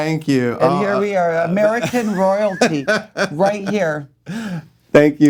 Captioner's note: laughing